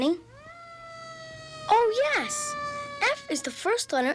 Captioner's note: fire truck siren